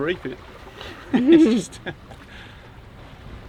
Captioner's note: laughs